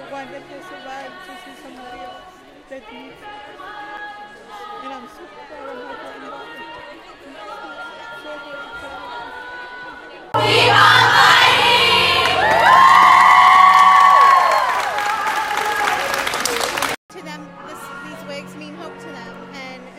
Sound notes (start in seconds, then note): 12.7 cheering; 14.2 clapping